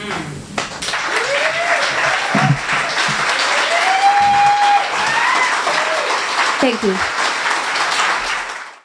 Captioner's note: applause